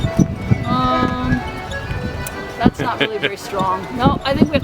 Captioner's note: laughter